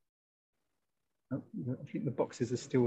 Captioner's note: laughing